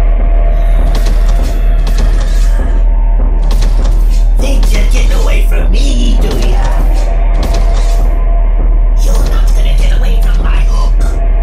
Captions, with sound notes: *Growls* Think you're getting from me do ya? You're not going to get away from my hook!